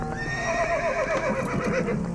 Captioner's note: horse whinnies